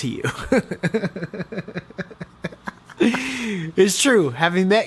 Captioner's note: chuckles